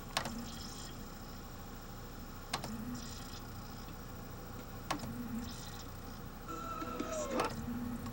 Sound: successive quick search/tracking sounds as we go from one chapter to the next

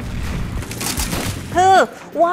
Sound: gun fire

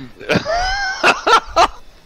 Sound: wheezing laughter

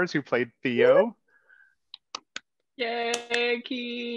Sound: all clap

